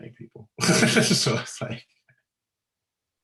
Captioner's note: giggling